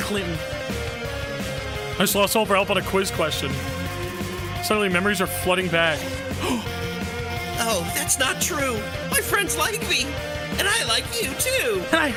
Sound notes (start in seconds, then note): 6.0 gasps